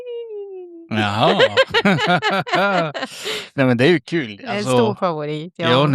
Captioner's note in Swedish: skratt